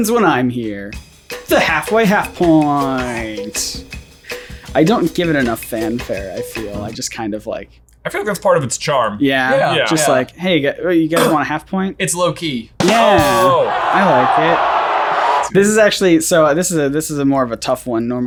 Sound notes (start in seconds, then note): 12.8 drum roll and crowd cheering